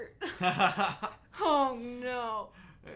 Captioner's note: laughing